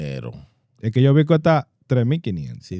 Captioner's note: speaking In Foreign Language